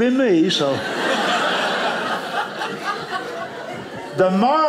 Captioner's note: audience laughing